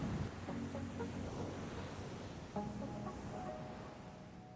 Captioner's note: ambient ocean waves